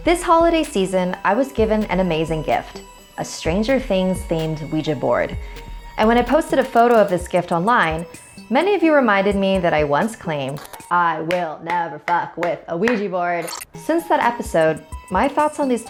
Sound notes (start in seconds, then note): 13.4 digital zipping